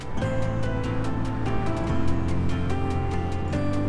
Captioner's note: wind blowing